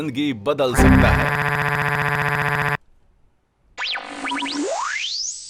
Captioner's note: electronic disturbance